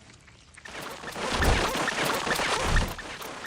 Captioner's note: Gloink squeaking rapidly